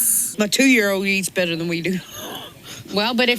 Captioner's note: laughs